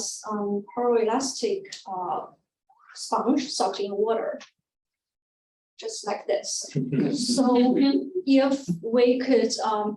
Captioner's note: audience chuckles